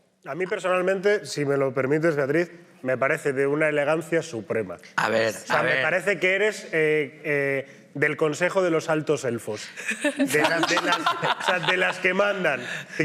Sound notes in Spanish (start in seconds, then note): 9.9 todos ríen